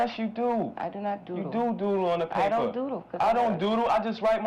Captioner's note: none